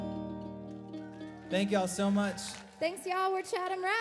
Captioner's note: gentle strumming; audience cheers and applauds